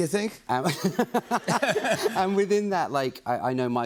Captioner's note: laughter